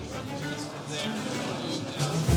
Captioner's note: indistinct chatter